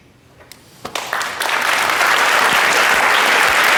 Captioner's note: applause